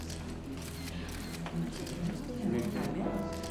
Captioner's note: spectators murmur